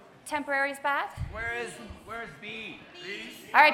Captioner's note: movement sounds